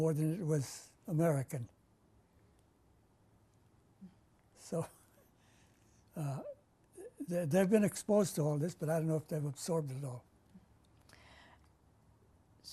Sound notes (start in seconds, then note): 1.4 pauses for 3 seconds; 4.8 laughs